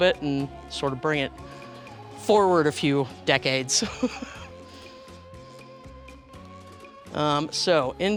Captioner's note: laughter